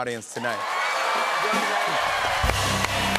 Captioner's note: cheers and applause